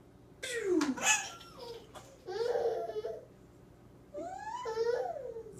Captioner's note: laughs